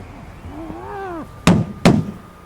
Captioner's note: Bo grunting